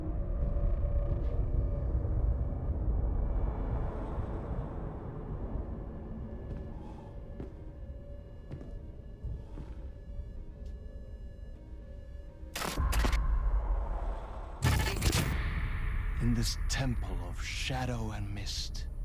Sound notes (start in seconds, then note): 12.8 gun firing; 14.6 gun firing